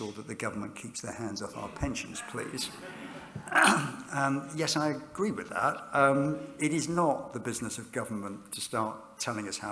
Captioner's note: laughter